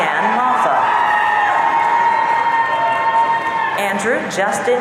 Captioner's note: audience cheering